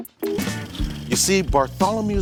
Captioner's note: tape rolling